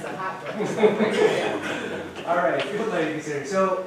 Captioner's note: laughter